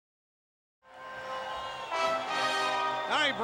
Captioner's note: crowd clamoring